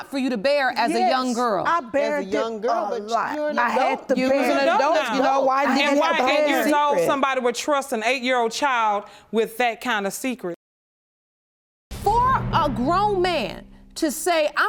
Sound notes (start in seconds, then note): 5.7 all clamoring